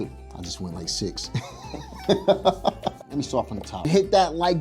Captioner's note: laughs